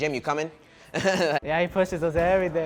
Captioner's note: laughing